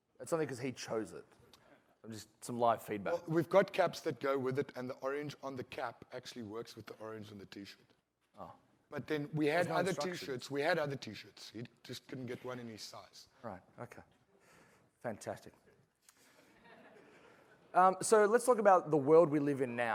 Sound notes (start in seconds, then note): 12.8 laughter